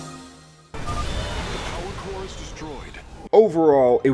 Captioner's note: massive explosion